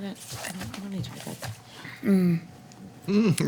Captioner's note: speaks softly